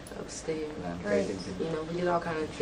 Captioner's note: voiceover